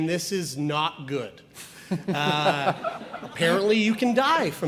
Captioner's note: audience laughs